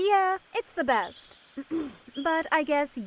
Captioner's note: clearing her throat